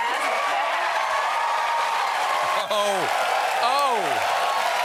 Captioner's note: cheers and applause